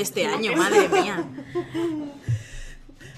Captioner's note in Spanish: risas